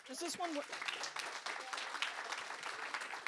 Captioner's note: applause